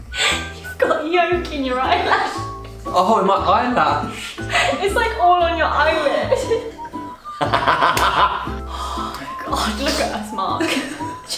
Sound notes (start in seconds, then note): 7.3 laughs